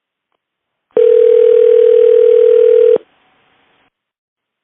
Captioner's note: phone ringing